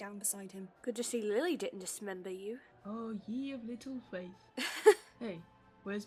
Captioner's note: Peter laughs